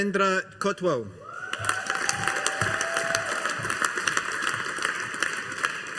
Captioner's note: audience applauding